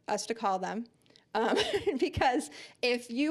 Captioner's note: laughing